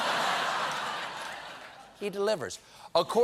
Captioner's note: laughter